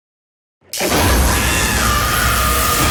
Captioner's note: electrical buzzing; woman yelling